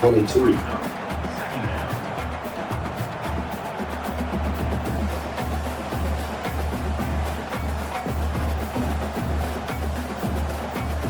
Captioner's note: crowd Noises